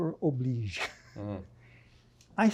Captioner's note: chuckling